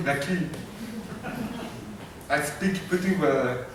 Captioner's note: chuckling